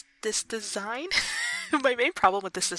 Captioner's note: laughs